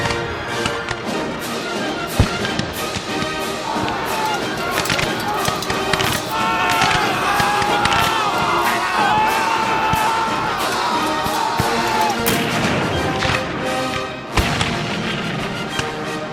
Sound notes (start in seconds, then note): 4.3 shouting; 12.1 cannons boom